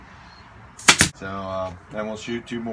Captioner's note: nailer operating